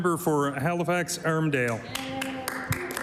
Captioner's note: applause